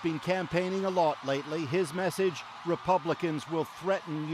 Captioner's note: cheers and Applause